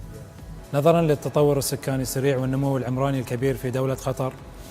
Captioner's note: speaking Arabic